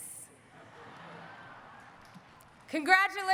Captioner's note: audience laughing